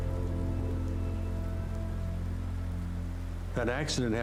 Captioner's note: emergency sirens